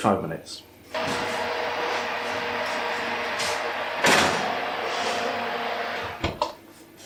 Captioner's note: oven roar